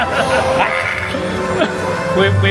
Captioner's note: screams playfully